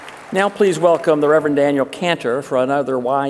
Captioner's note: applause